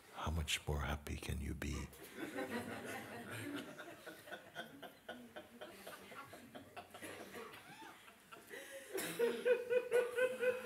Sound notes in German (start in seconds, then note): 2.0 Lachen